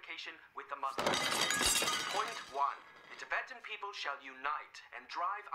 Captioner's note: plates Crashing